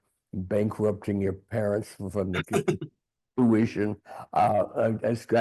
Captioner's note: laughing